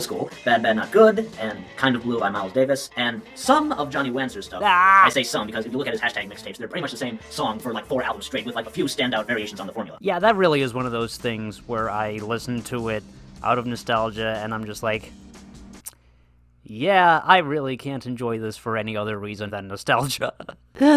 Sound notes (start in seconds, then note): 4.6 laughs; 20.7 exhales; 20.8 laughs